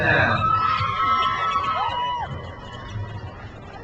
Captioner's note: crowd cheers